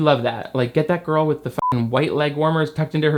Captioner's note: beep